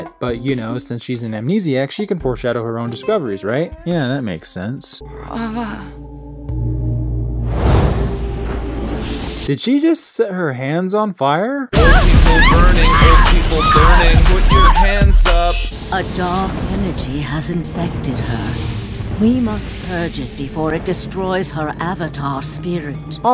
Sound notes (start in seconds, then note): 11.8 woman screaming